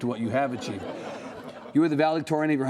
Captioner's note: laughing